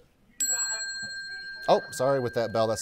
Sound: bell ringing

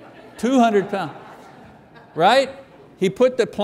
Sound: congregation laughing

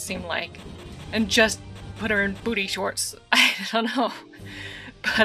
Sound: laughing

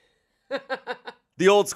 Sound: laughs

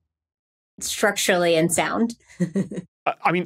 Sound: snickers

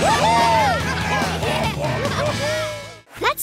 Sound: laughing

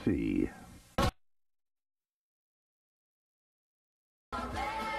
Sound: silence

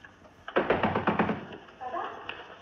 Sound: knock On Door

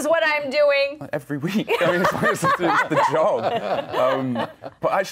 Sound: laughter

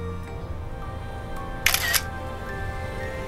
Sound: snapshot Click

